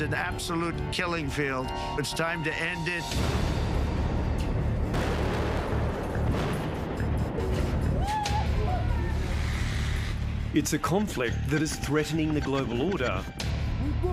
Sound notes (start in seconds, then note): 4.8 explosion; 8.1 shrieks; 13.9 yells in russian